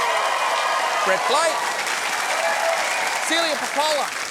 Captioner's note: cheering and applause